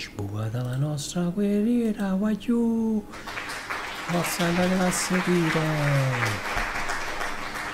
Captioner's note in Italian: Applauso